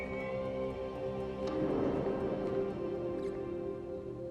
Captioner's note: mysterious squeak